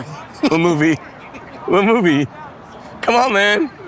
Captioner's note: chuckling